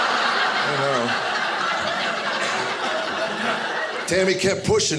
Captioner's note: audience laughing